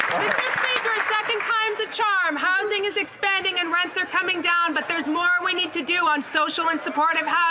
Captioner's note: some Applause